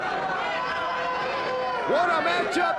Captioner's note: ambient chatter